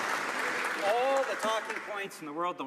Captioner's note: some Applause